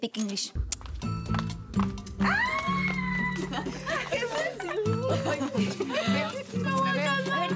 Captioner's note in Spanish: exclamaciones; risas